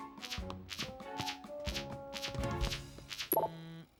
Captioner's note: computer Buzzing Tone; blip